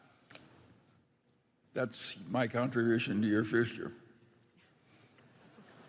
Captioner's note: laughter